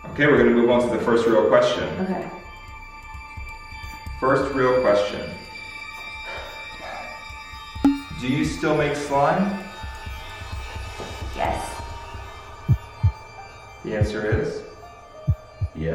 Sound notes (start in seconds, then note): 12.6 heartbeat